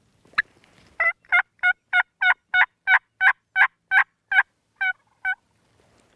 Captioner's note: turkey calling